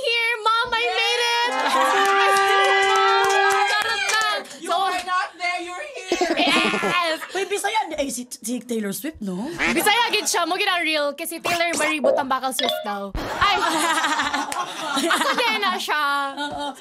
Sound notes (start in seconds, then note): 1.3 laughs; 13.2 laughter